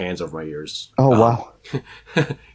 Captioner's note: chuckles